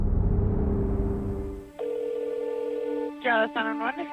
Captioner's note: phone ringing